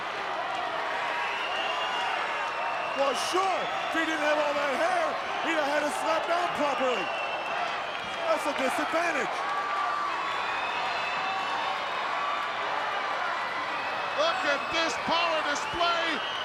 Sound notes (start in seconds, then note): 0.1 crowd yelling; 9.5 crowd yelling